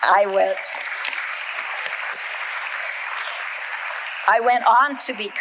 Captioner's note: audience applauding